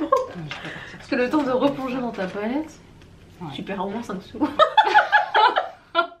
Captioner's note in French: rires; rires